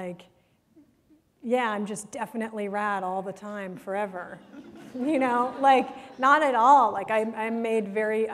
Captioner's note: laughter